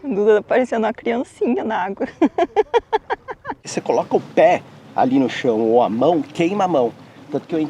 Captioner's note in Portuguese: risadas